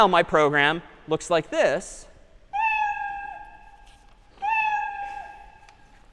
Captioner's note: meowing